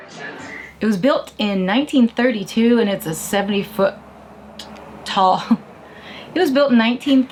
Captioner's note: laughs